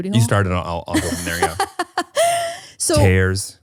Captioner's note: laughing